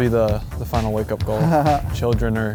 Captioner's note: laughs